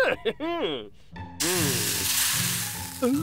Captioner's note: mustache sizzles